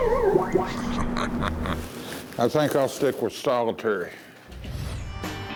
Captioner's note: laughs